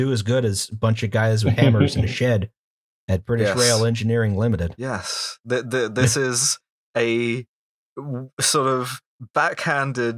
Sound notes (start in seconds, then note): 2.6 laughter